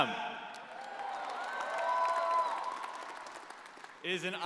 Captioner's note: crowd cheering